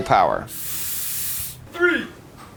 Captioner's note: air hissing